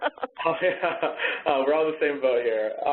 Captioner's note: laughs